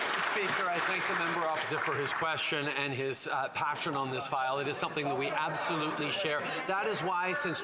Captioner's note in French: voix de l'interprète